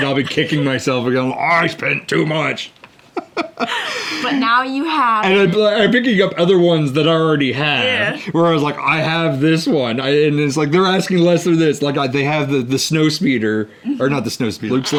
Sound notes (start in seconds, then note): 3.1 laughs